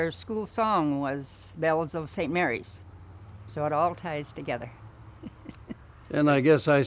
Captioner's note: laughs